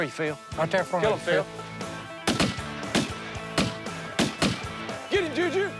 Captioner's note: gunshots